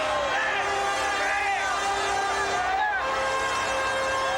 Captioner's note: audience cheers